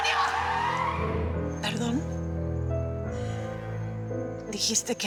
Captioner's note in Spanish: Chirrido de gomas